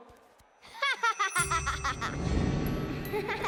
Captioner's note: laughing